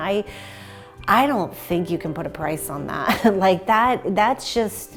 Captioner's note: laughs